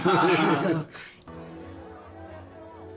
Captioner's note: all laughing